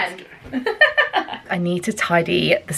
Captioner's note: laughing